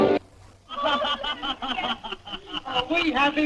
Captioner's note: laughter